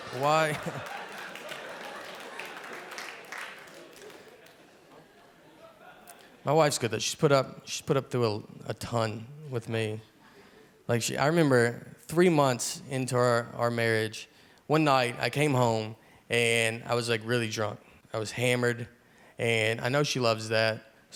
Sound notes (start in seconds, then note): 0.0 audience cheering